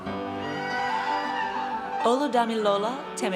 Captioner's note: audience cheers